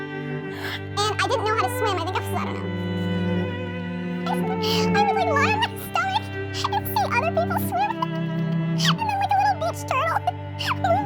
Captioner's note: sped up high pitched voice